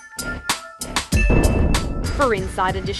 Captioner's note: upbeat music; lightning strikes